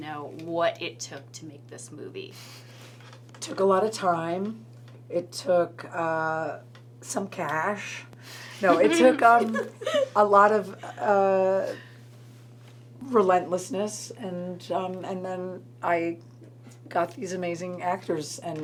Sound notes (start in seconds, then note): 8.6 laughs